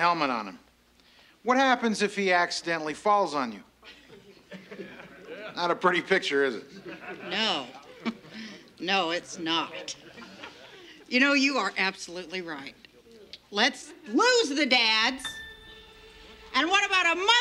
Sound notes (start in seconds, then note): 6.6 chuckles